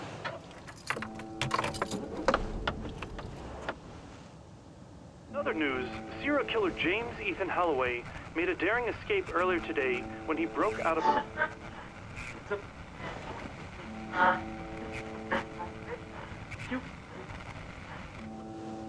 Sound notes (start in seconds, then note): 0.4 keys clattering